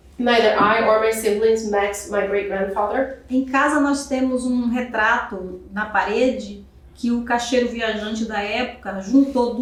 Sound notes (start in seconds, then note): 3.7 speaking portuguese